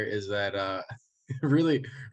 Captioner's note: chuckles